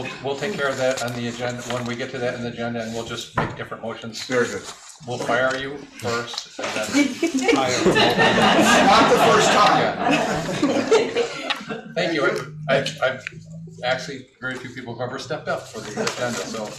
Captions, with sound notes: We'll take care of that on the agenda. When we get to that on the agenda and we'll just make different motions. Very good. We'll fire you first. (laughing) Not the first time. (laughing) Thank you. I've actually very few people who've ever stepped up for the agenda.